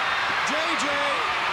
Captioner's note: crowd cheering